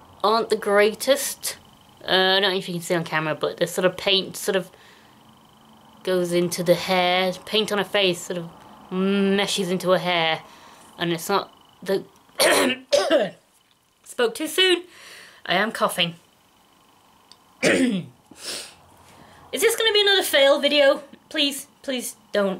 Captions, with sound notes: aren't the greatest, Uh I don't know if you can see on camera, but the sort of paint sort of goes into the hair. The paint on her face sort of meshes into her hair, and it's not the...*coughs* Spoke too soon! I am coughing. *ahem* Is this gonna be another fail video? Please, please don't